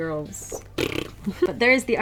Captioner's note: blows raspberry